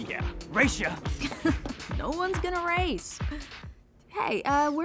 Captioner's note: snickers